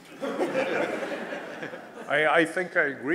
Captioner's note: laughter